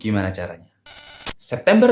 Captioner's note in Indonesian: suara interferensi